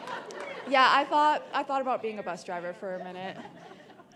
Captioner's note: laughter